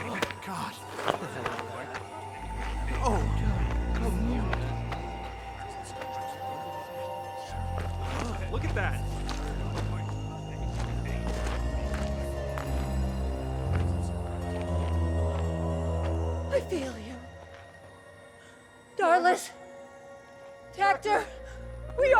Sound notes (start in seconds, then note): 3.3 eerie music continues; 6.0 soldiers murmuring; 11.5 soldiers murmuring